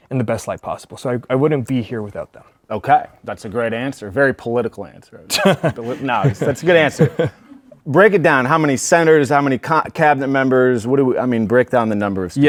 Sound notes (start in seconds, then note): 5.3 laughs